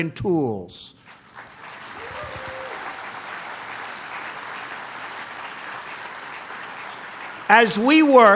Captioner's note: applause